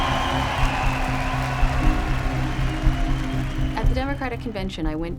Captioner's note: crowd cheering; soft music